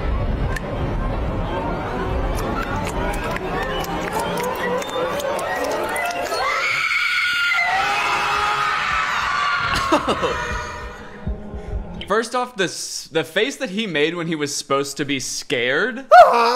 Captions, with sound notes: (screams loudly) - First off the face that he made when he was supposed to be scared.